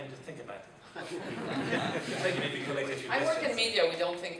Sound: people chuckling

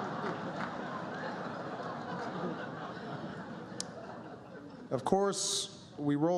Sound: laughter

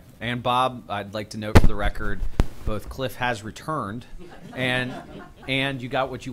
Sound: laughter

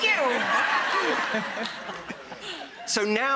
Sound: audience laughs

